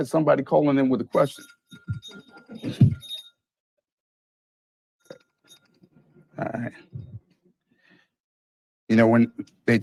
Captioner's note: phone rings